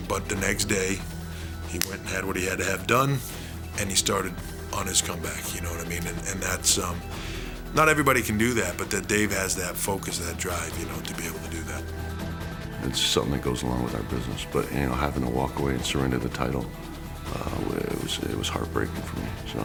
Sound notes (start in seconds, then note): none